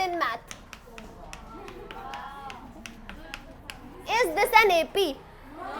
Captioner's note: students wowing